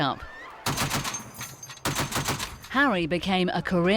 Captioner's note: gun firing